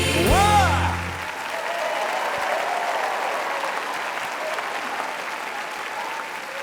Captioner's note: audience applauding and cheering